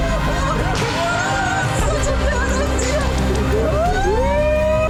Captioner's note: screaming